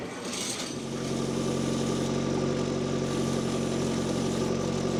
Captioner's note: tractor rumbling